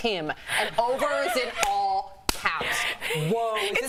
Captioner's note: laughter